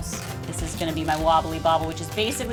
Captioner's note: none